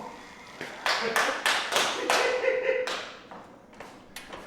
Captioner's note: clapping and laughing